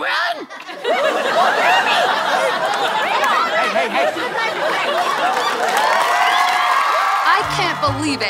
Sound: audience laughter

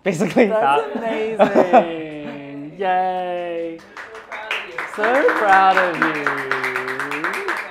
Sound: applause

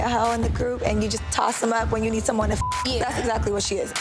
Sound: beep

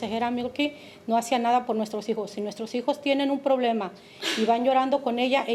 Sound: speaking Spanish

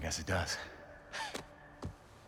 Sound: laugh

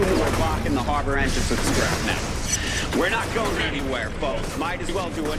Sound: gunfire; character chatters indistinctly over radio

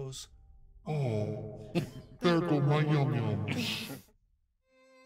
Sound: speaker chuckles; somber music

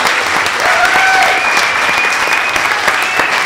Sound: applause

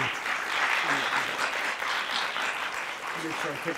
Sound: audience applauding

